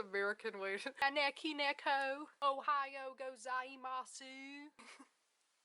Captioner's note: in an exaggerated southern USA accent; laugh